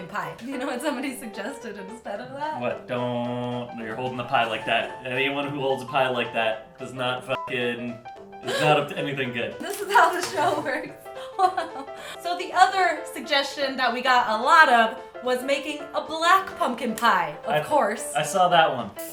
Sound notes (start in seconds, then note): 11.2 giggling